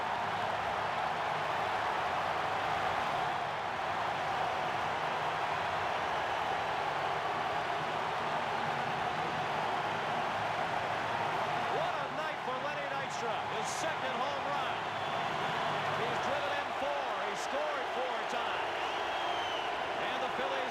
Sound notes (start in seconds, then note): 0.3 applause; 4.3 cheering and Applause; 4.8 applause; 5.1 cheering and Applause